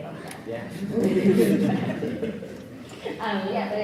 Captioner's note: audience laughs